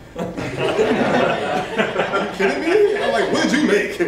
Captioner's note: laughter